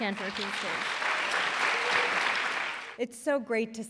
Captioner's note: applause